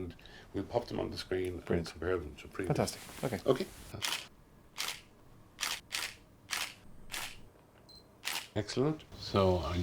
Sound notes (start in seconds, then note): 4.2 camera snapping